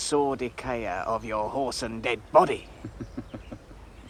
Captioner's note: Hamlet chuckles